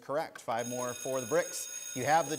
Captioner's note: school bell rings